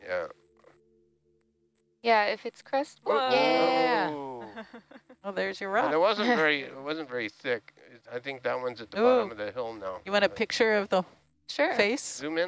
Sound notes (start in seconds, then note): 0.4 male Voice; 2.9 monotone cheering; 7.0 male Voice; 12.4 male Voice